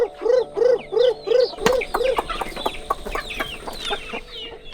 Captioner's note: chicken cluck